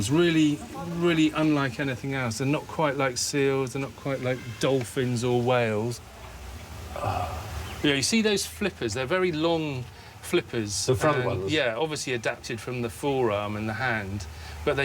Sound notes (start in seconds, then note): 6.9 Stephen sighs